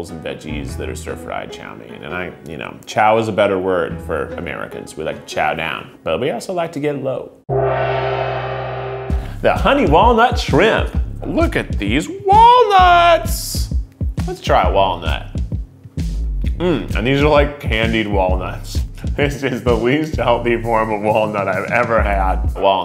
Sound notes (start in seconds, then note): 7.5 gong reverberates